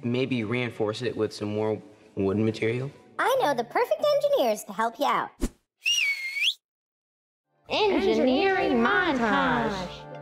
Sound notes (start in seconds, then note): 5.8 whistles; 9.9 upbeat electronic music